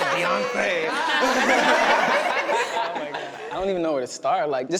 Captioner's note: everyone laughing